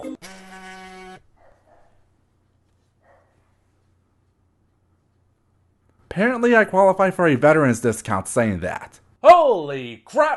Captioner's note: phone Buzz